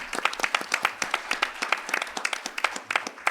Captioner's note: applause